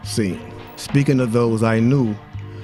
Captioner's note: none